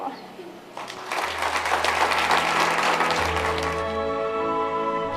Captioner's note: audience applause